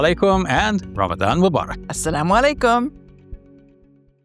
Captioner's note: speaking in Arabic; speaking in Arabic